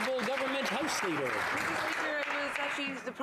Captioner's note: some Applause